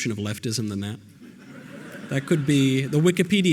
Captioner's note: audience laughter